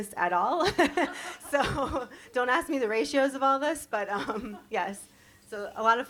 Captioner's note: chuckle